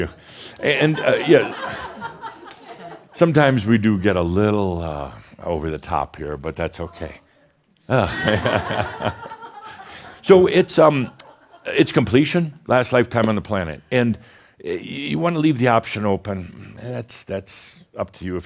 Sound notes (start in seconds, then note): 7.8 more chuckles